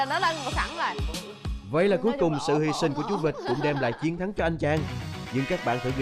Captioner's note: laughing